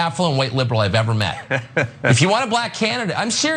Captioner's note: laugh